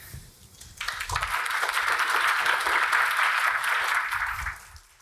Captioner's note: audience applause